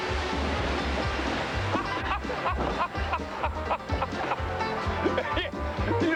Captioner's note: continues laughing